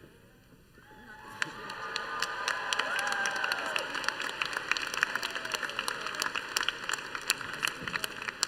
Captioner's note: applause